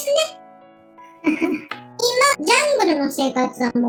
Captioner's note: laugh